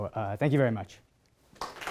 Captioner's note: applause